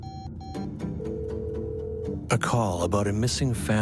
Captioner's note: dramatic music; telephone trilling